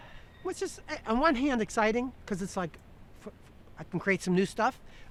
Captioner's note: sighs